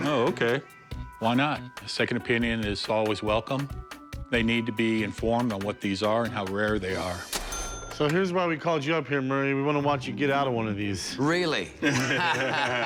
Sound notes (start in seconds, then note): 7.0 register dings; 11.8 laughter